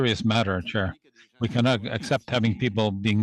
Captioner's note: speaking French